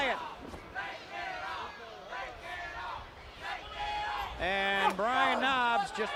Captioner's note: crowd cheering